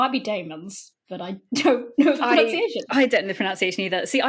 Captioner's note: laughing